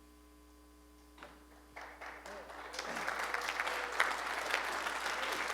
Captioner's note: applause